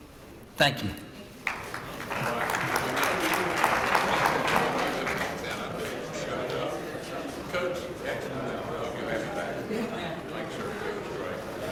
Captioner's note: applause